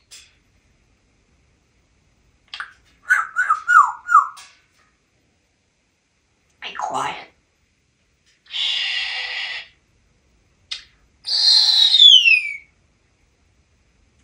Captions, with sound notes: [Whistling] Be quiet. Shhh... [Whistle]